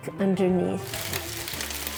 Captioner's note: sizzling